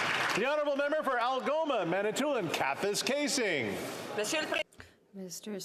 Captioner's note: some Applause